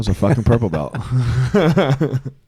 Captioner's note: laughing